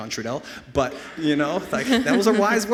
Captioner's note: laughs